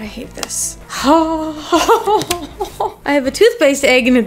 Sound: moaning

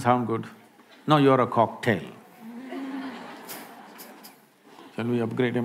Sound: laughter

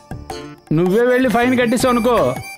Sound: none

